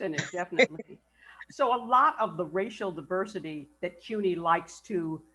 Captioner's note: laughs